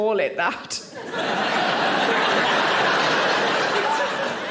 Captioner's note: audience laughing